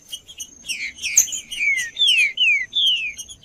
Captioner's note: trinca ferro cantando